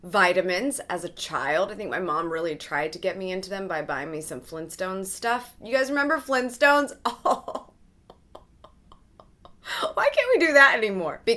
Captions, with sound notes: vitamins as a child. I think my mom really tried to get me into them by buying me some Flintstones stuff. You guys remember Flintstones? (laughs) Why can't we do that anymore?